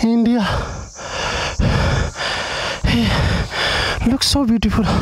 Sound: deep Breathing

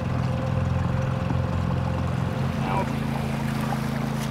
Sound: boat engine roaring

